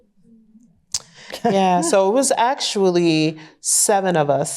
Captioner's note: chuckles